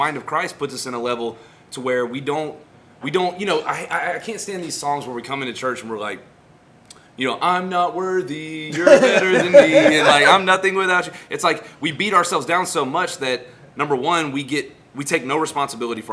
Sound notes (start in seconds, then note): 7.1 singsong; 8.7 laughter; 10.0 singsong